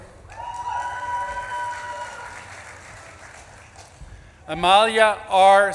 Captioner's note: audience claps and cheers